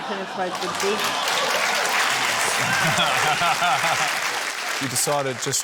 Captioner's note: laughter; cheering, applause; guy laughs